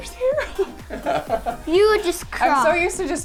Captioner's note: laughs